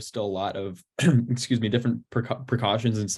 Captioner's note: coughs